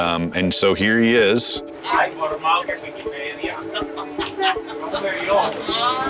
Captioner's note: indistinct chattering